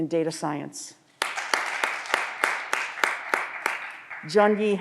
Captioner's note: audience applause